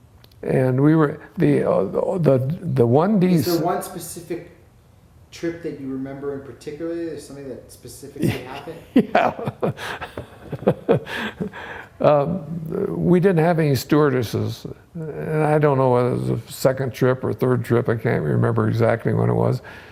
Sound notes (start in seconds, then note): 8.2 laughs